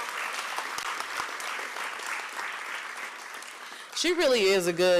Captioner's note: applause